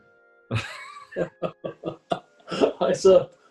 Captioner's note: chuckling